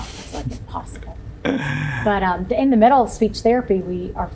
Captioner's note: laughs